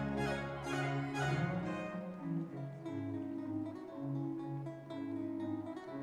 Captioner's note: audience members cheering